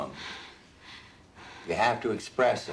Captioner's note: breathing heavily